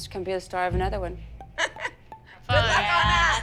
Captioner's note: chuckles